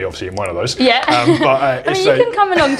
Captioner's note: laughs